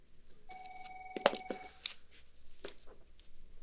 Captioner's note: phone rings